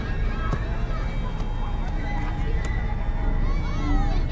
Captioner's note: ball thwacking; ball thuds; foreboding music